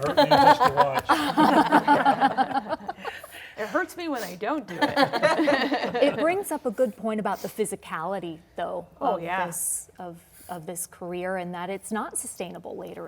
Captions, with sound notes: -It hurts to watch. [laughter] -It hurts me when I don't do it. -It brings up a good point about the physicality of this career and that it's